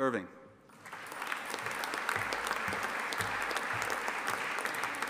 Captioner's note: audience applauding